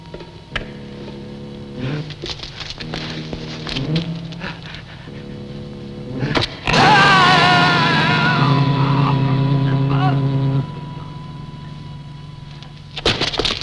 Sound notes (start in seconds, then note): 1.8 gasping; 6.1 screaming